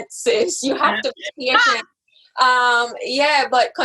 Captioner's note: laughs